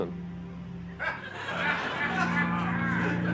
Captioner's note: laughing; laughter